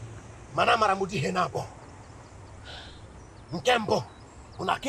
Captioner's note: igbo language